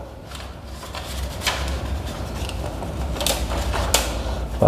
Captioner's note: PET film noise